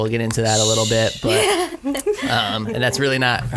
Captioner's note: laughs